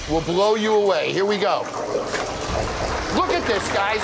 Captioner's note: oil burbling